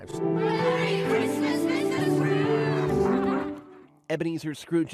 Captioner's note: laughing